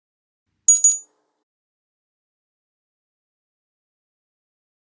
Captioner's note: ringtone dinging